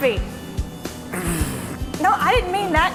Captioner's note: grunting loudly